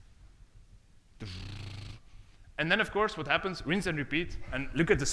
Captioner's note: rolls lips